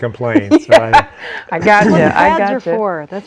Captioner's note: laughing